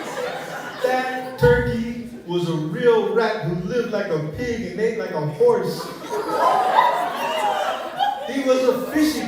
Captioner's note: laughter